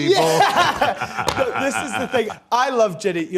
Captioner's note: laughs